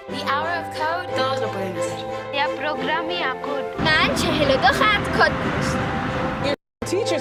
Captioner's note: women speak in foreign languages